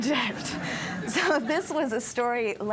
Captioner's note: laughter